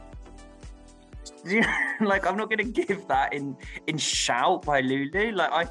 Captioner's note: laughs